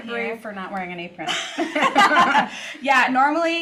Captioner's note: both laugh